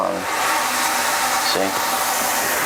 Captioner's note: water turns on